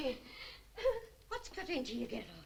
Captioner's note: Doris sobs